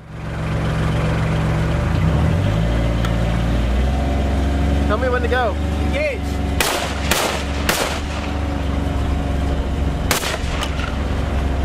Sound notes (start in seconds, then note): 0.3 vehicle engine; 5.0 voiceover; 6.6 gunfire